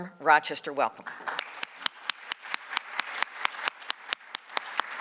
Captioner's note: audience applauds